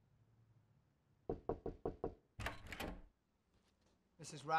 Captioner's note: knocking